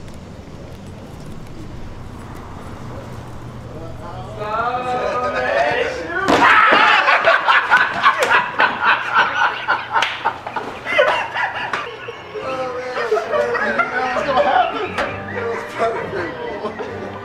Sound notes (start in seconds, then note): 5.2 indistinct chatter and laughing